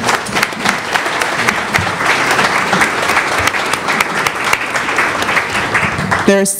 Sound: applause

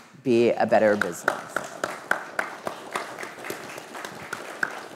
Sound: audience clapping

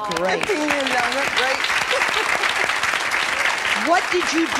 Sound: everyone applauds and cheers

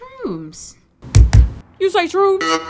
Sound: door banging; upbeat music

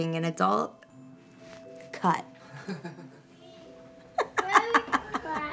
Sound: laughter

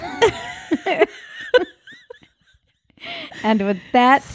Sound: laughing

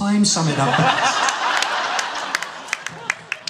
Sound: laughter

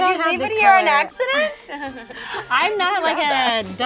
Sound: laughs

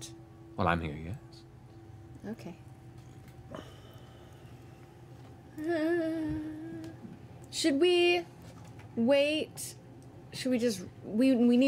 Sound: whimpers

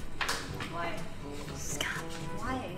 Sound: whispers

